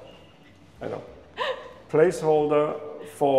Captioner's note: chuckles